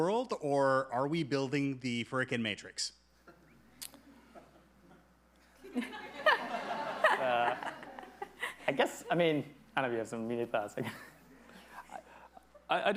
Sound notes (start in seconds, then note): 3.1 everybody laughing; 12.2 laughs